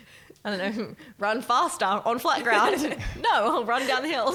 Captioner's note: laughing